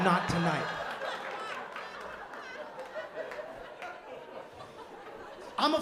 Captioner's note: laughter